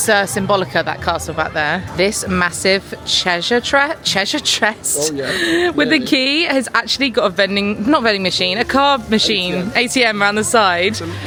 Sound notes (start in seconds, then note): 4.4 fumbling